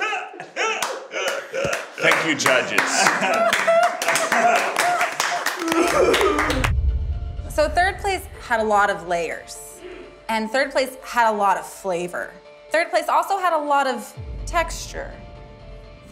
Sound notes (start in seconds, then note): 0.7 clapping; 3.9 judges clapping